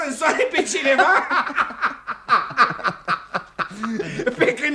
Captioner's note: laughs out loud